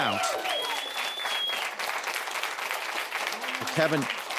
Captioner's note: audience applauds